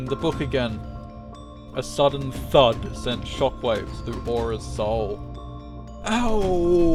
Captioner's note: A sudden thud sent shockwaves through Aura's soul